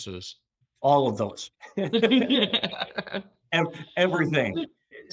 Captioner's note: laughs